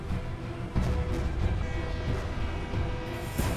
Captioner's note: train horn